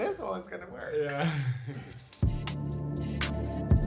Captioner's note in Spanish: ambos ríen